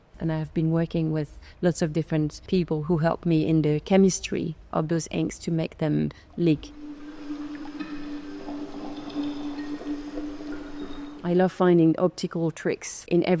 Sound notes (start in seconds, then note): 6.0 water dripping; 6.6 pensive music